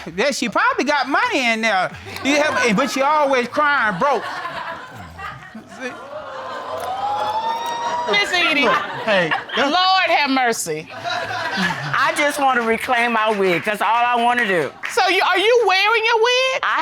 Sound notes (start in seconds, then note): 6.4 audience exclaiming